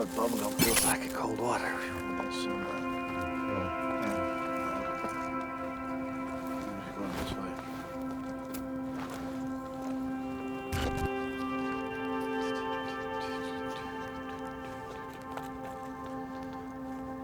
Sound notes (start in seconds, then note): 9.7 footsteps crunch; 9.7 somber music